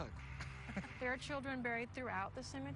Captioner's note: chuckles